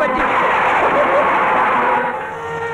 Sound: thunder crashing

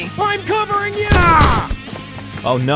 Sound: gun bangs

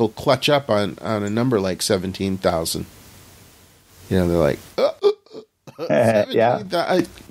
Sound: choking sound

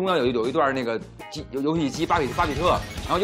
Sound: game sound

